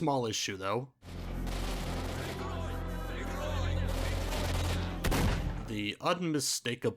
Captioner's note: gunfire, alarms, incoherent shouting